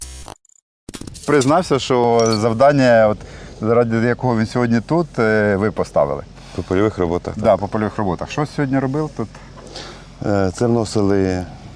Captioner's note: speaks ukranian